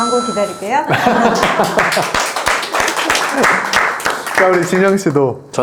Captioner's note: applause